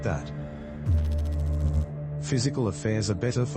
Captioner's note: electrical noise